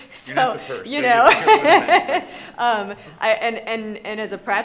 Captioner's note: overlapping chatter